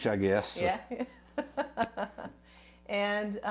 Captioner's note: laughs